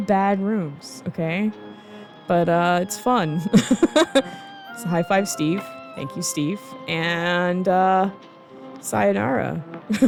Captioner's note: laughing